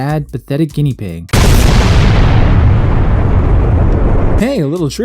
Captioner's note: boom!